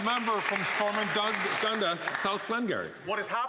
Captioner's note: some Applause